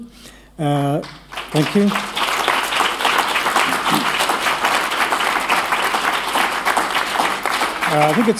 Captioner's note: applause